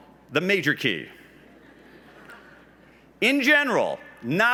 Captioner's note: laughs